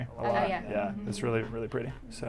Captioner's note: all muttering agreement